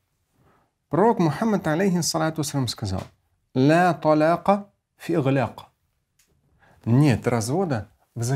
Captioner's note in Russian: Говорит на арабском